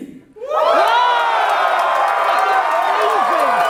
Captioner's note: audience cheers